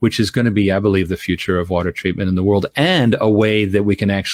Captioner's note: none